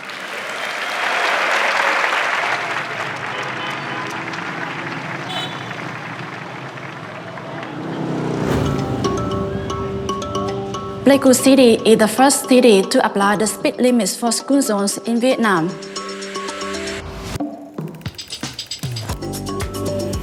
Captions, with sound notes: (audience applauding) (car horns honking) (motorbike whirring) (bright music) - Pleiku City is the first city to apply the speed limits for school zones in Vietnam. (bright music continues)